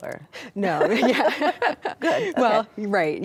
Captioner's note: both laughing